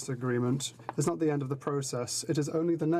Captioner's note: speaking French